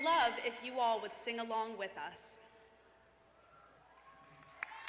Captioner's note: cheers